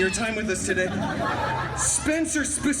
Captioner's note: guests laughing